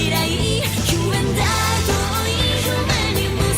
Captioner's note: none